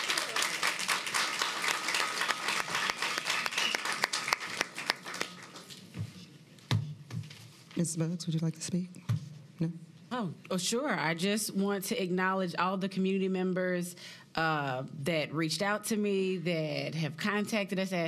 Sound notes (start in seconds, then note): 4.4 applause